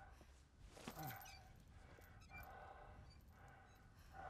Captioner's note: heavy breathing